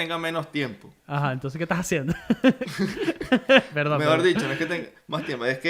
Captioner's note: laughs